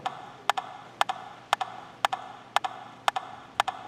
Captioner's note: rhythmic tapping